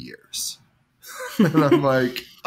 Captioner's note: laughs